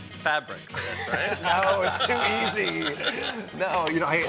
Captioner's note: all chuckling